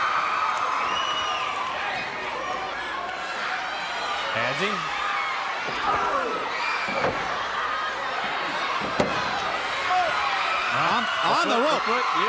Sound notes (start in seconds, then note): 0.3 crowd cheering; 2.3 crowd chatter; 6.9 crowd chatter